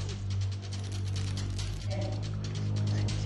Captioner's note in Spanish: Murmullo de la reclusa